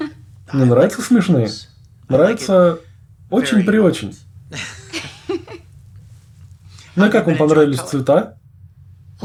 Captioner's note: laughter